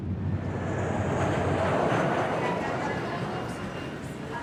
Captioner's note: jet engine roaring